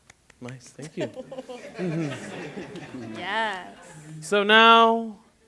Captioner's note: laughter